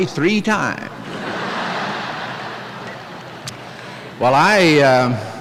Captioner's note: laughter